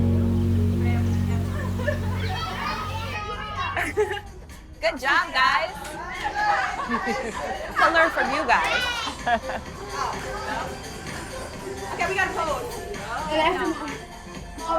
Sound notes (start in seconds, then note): 3.6 chuckles; 9.5 dance music